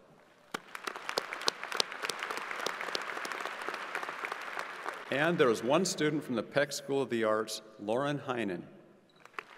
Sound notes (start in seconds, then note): 0.4 crowd applauding